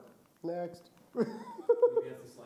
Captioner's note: laughs